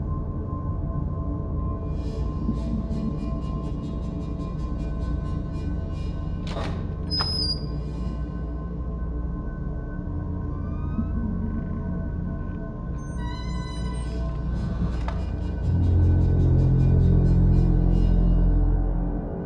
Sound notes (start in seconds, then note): 6.4 door creaks; 11.0 door creaking; 15.0 ominous music continuing